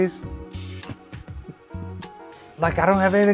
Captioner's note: chuckles